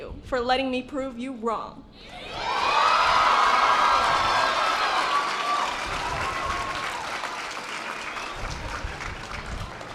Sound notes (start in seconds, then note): 2.3 audience applause